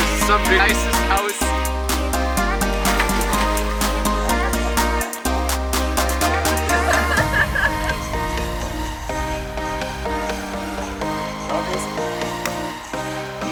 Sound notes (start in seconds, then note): 3.3 upbeat music; 6.2 girls laughing; 10.2 upbeat music; 12.4 hands clap